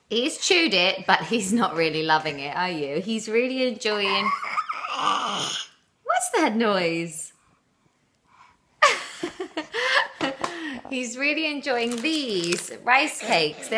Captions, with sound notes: He's chewed it but he's not really loving it, are you? He's really enjoying-- (Growly baby noise) What's that noise? (laughter) He's really enjoying these rice cakes.